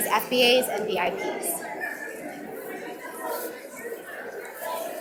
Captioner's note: audience mumbling